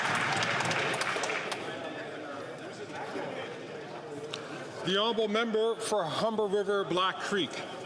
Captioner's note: some Applause